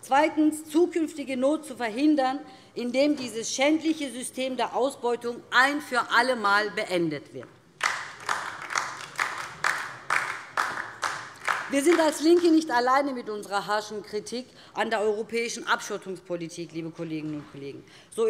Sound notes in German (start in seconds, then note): 7.8 Beifall DIE LINKE